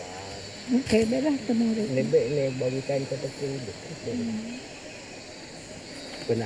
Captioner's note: speaking in foreign language